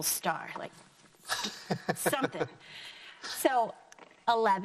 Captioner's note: laughing